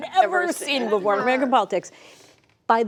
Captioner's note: laughter